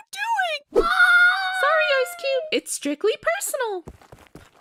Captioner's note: ice cube cries